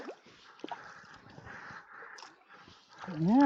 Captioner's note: paddling